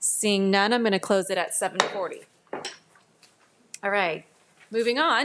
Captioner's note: gavel thuds